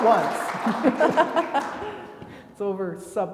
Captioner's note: attendees clapping; laugh